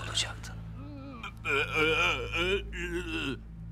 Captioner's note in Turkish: İnleme sesleri